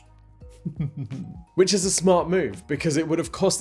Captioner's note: chuckles